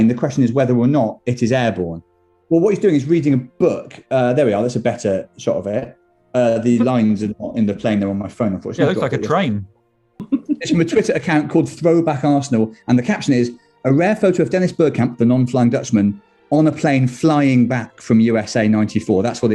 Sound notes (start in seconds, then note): 10.2 giggling